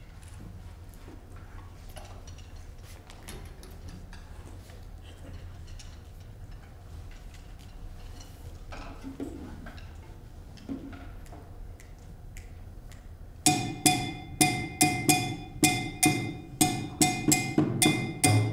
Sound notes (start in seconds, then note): 11.3 snapping; 13.7 lively drumming